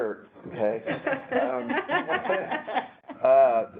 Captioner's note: laughter